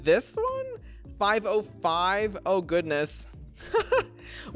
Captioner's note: laughs